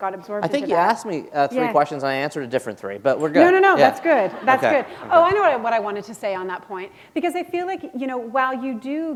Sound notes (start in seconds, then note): 3.6 laughter